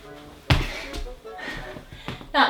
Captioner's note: huff